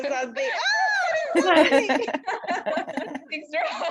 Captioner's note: laughter